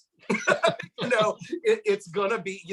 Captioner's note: laughs